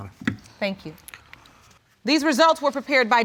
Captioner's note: none